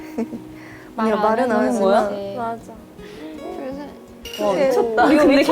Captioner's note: tears